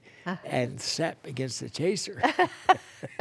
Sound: laughter

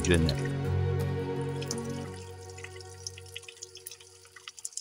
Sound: water dripping

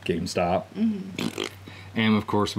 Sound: man blowing raspberry

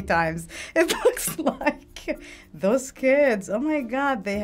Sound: laughing

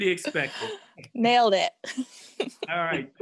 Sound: laughs

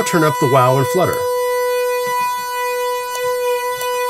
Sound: ringing

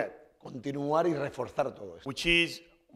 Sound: speaking spanish

